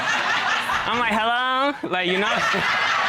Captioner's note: in high-pitched tone